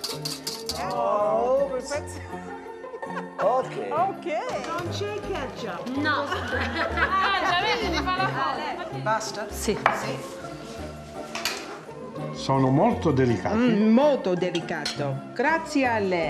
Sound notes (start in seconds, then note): 4.6 speaking Italian